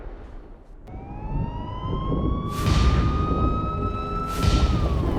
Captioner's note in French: Sirènes lointaines